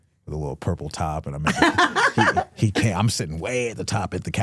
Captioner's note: hosts laughing